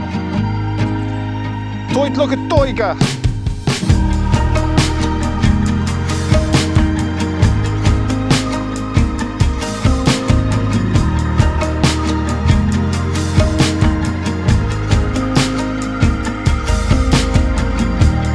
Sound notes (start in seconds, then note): 0.4 upbeat music; 2.0 speaking in foreign language